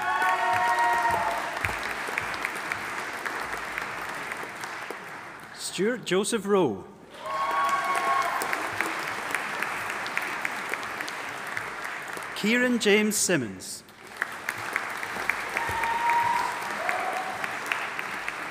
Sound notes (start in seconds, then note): 0.0 audience applauding and cheering; 7.1 audience applauding and cheering; 13.9 audience applauding